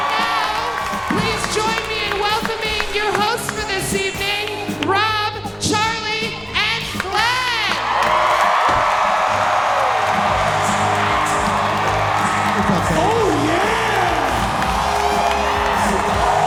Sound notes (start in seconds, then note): 7.0 audience cheering loudly